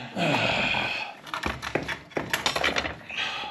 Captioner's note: sighing